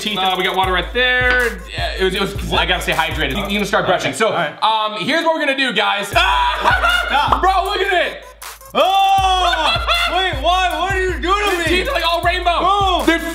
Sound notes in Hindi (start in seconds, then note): 6.3 हंसी; 8.7 चिल्लाना; 9.2 हँसना